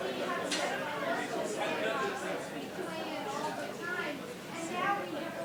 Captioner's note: audience chattering